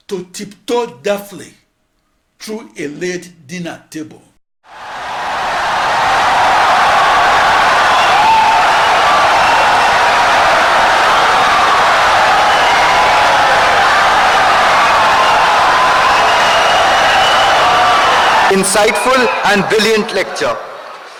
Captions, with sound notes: to tiptoe deftly through a laid dinner table. [Wild applause and cheering for 17 seconds] Insightful and brilliant lecture